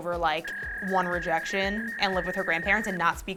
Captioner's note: dial up tone